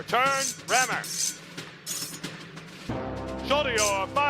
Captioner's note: metal clashing